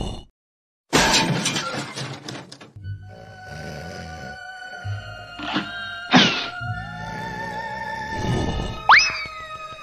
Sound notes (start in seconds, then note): 0.9 crash; 3.0 snoring